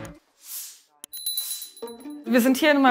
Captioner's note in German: Glocke klingelt